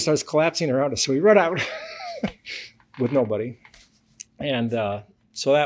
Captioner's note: laughs